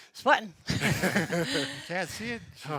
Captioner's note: all laughing